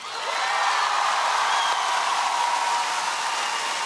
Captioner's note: audience cheering